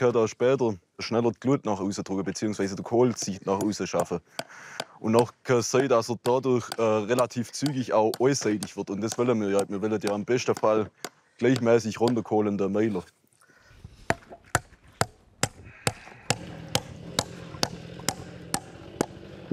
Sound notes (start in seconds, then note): 15.8 hammering; 15.9 chainsaw hums